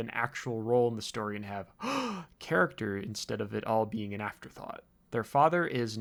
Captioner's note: gasp